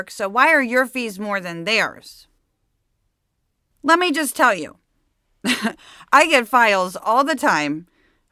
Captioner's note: laughs